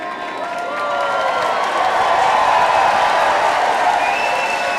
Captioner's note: applause